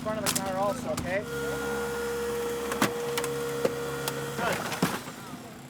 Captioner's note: mechanical roaring